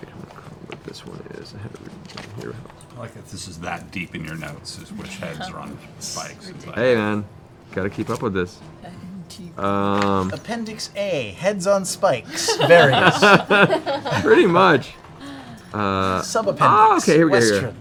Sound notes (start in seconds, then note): 12.2 laughs